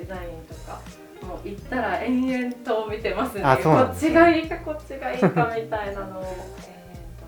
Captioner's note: laughter